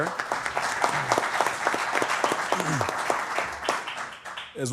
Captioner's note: applause